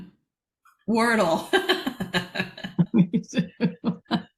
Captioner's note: laughter